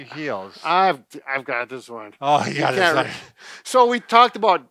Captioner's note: laughs